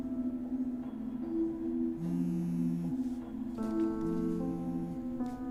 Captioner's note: phone vibrating